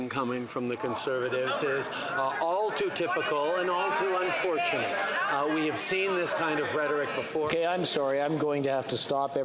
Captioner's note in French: voix de l'interprète